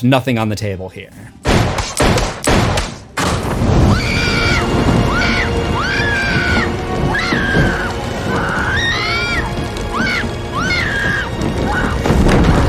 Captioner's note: screams